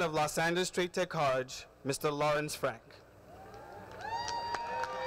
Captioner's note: cheers and applause